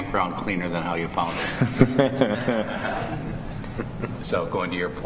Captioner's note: laughter